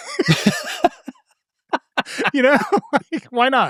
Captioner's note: laugh